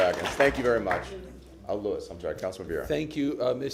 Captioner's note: applause